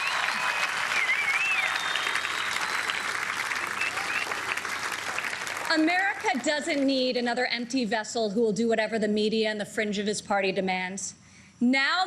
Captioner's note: applause